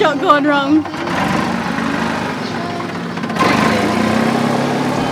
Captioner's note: motor revving